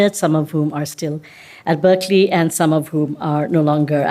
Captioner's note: none